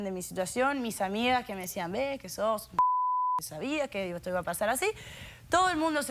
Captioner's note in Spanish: Bip